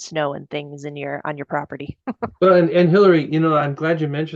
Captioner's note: laughing